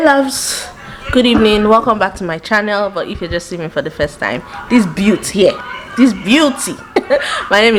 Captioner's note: giggles